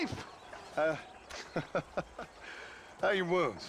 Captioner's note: laughs